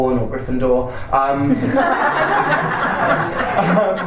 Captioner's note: panellists and audience laugh